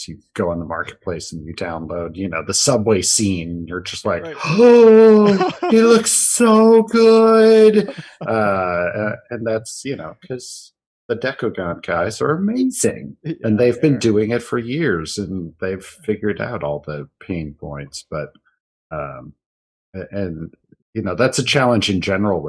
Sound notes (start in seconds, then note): 7.8 gasps